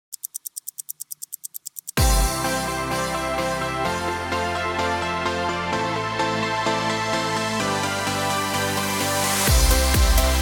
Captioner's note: clock ticking